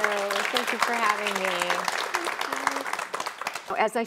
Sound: audience applauds

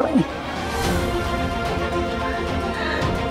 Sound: emotional vocalising

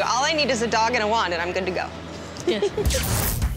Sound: giggles

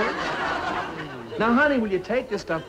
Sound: audience laughing

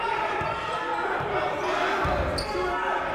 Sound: shouting

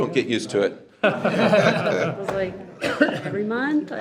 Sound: board laughs

